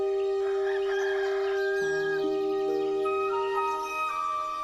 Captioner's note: birds singing; rooster calling